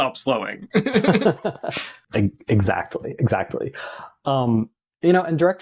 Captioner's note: laughter